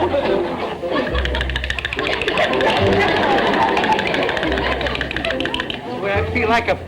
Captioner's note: teeth chattering